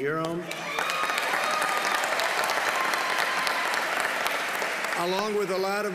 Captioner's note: applause